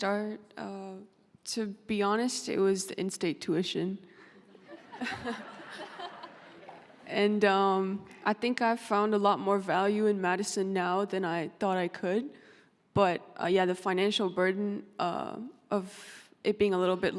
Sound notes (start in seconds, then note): 4.6 laughing